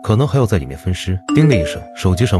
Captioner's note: ding!